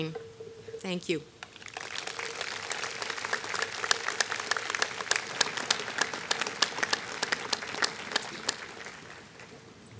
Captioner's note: applause